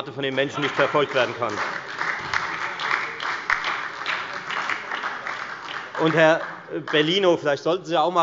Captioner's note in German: Beifall bei der FDP, der SPD und der LINKEN